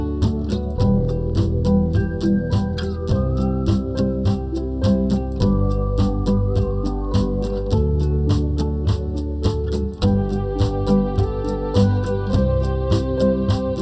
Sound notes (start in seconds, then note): 4.8 whistling